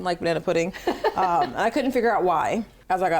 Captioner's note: laughing